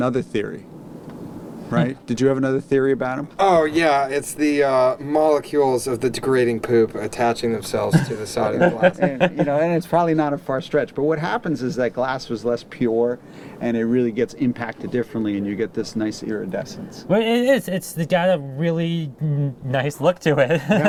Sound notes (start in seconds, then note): 7.8 laughter